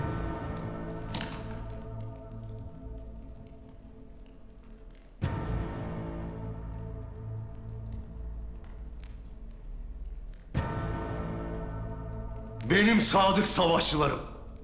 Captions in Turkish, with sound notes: (Kapak açılma sesi) (Müzik - Gerilim) Benim sadık savaşçılarım!